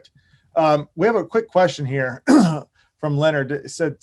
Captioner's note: coughs